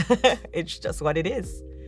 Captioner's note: chuckling